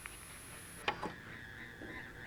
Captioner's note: button clicks; gentle eerie music